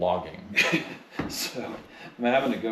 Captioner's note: host chuckling